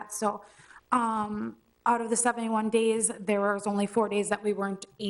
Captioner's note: none